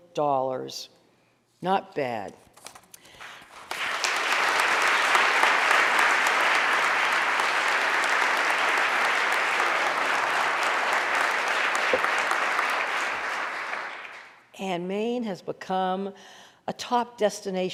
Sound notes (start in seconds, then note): 3.3 audience applauding